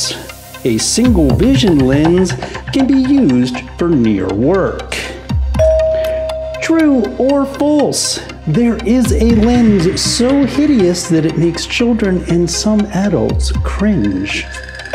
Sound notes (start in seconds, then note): 5.6 bell dings